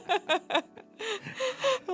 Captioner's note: laughing